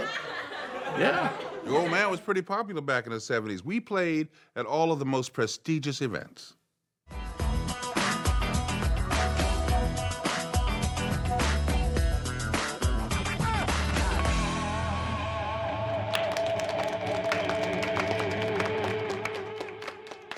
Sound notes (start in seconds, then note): 7.4 funky music; 15.2 modest applause